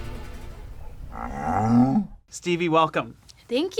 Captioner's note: cow mooing